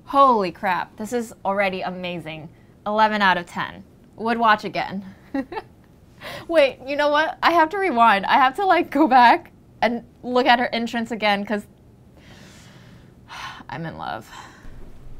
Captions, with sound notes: Holy crap, this is already amazing, 11 out of 10, would watch again (laughs). Wait, you know what? I have to rewind, I have to go back and look at her entrance again, 'cause (sighs) I'm in love.